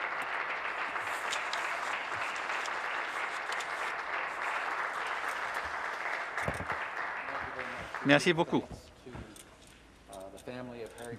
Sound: applause

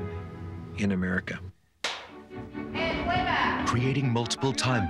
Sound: slate claps

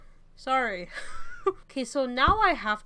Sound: wheeze

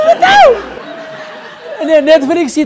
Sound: laughter

